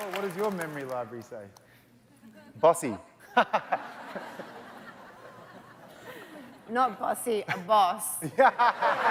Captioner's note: cheers and Applause